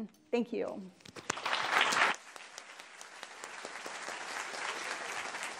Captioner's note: attendees applauding